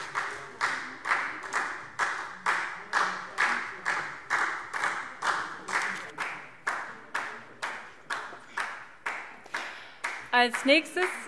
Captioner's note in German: Beifall SPD